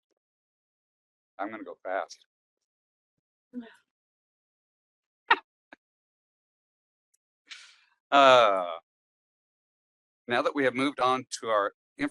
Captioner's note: laugh